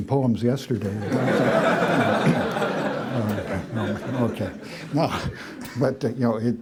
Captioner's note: laughter